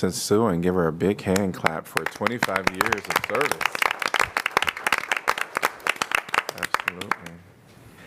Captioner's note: applause